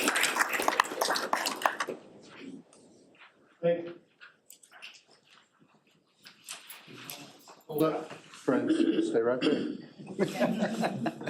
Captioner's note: applause